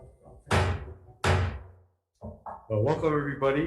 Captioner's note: hammer thud